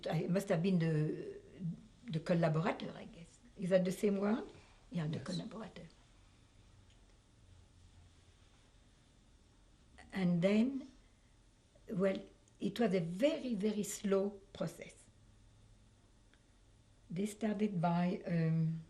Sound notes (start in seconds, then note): 6.8 pauses for 3 seconds